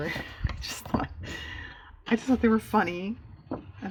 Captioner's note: laughs